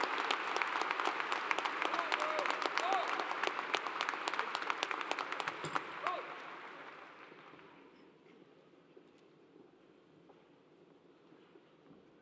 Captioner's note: applause